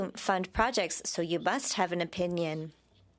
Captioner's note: speaking French